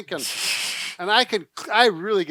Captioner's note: chortling